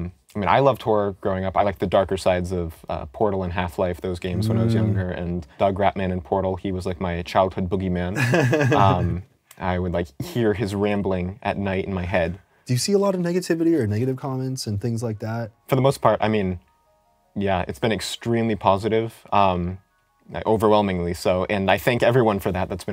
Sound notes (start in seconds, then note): 8.2 laughs